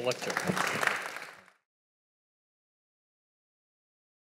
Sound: audience applauding

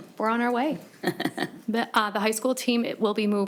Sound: person laughing

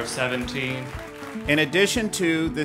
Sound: ^applause^

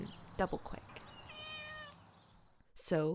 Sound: the cat meows

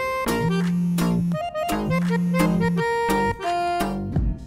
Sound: phone rings

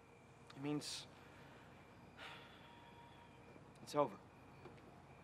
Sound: sighing

